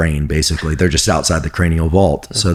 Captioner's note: chuckles